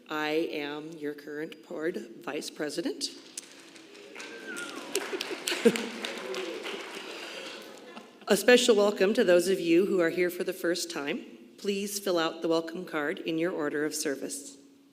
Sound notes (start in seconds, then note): 3.1 congregation applauding; 4.2 chuckles